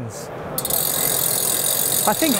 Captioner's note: wheels spinning